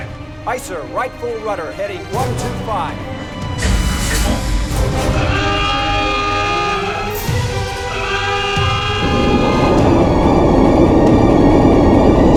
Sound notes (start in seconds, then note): 5.3 alarm sounds